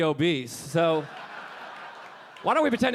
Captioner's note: audience laughing